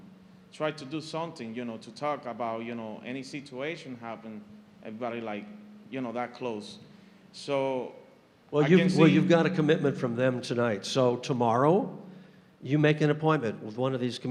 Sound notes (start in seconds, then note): none